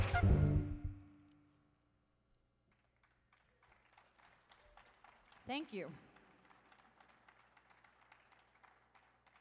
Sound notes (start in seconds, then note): 2.7 audience applauding